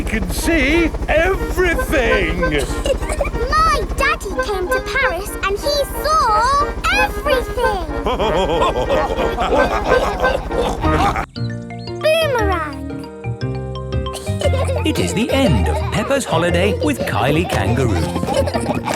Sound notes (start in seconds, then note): 3.1 chuckles; 6.8 all laughing